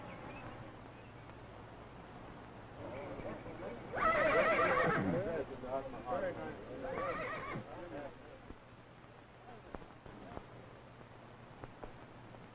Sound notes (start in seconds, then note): 3.8 horse whinnying, chatter